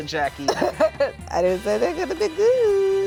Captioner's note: laughs